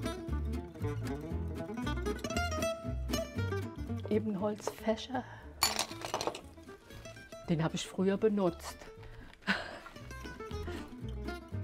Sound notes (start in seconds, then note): 0.0 lively music; 5.6 clink; 9.4 she laughs